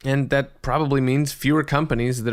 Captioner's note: none